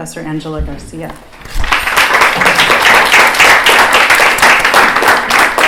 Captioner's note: applause